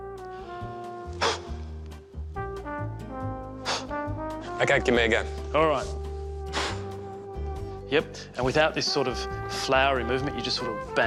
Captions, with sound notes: (blows air) (blows again) Ok, give me a go. Alright. Yep, and without this sort of flowery movement. You just, bang.